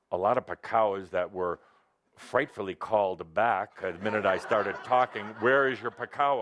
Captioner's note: laughter